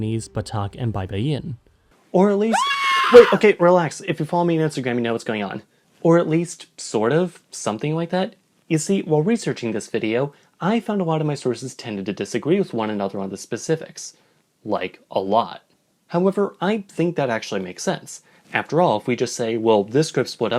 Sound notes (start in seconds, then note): 2.5 scream